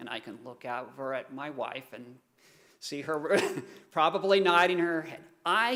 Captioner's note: chuckling